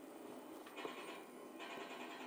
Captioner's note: shooting